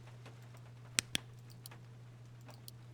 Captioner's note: flashlight Clicks Off